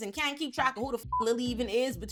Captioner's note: beep